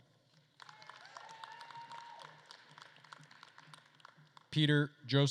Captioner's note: attendees cheering and applauding